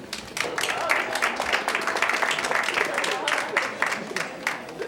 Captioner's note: scattered clapping